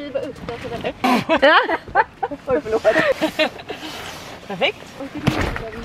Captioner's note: laughter